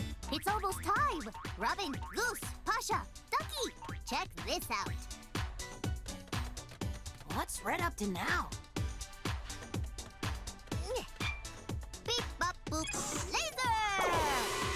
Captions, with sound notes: - It's almost time! Robin, Goose, Pasha, Ducky! Check this out! - What's Red up to now? (grunting) - Beep, bop, boop! Laser!